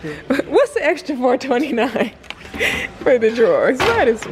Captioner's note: laughs